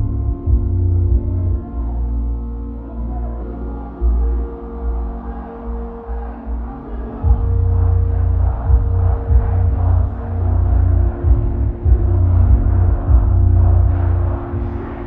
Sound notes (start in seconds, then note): 3.6 audience cheering